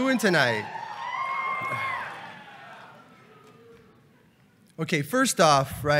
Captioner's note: cheering